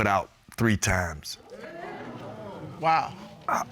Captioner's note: audience hooting